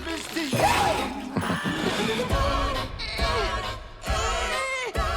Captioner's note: upbeat humming